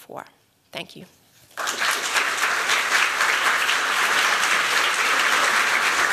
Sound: applause

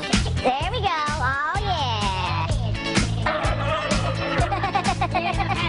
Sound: laughter

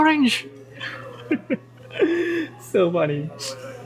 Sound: laughs

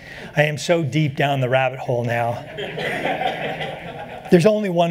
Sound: laughter

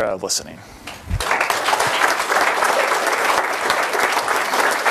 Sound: applause

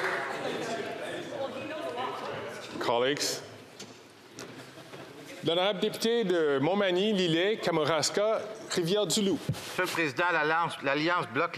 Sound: some Applause

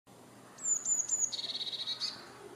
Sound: bird song

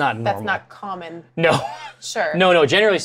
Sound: laughs

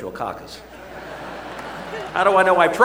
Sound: laughter

